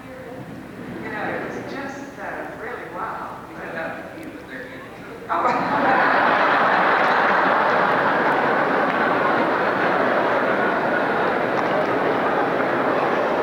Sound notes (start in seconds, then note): 7.7 laughter